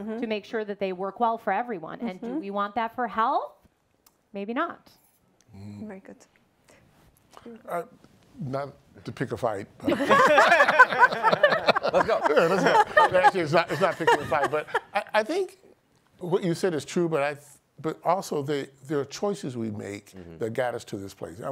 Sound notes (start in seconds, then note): 9.9 laughing; 14.1 chuckles